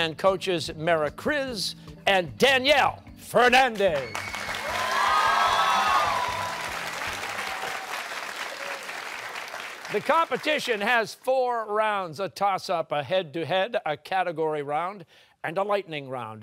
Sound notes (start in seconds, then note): 3.9 cheers and applause